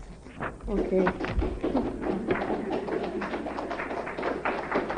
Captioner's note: applause